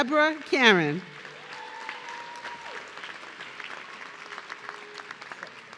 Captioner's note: audience cheering